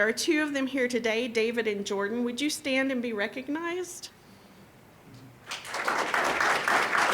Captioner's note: applause